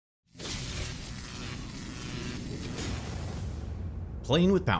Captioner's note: electricity buzzing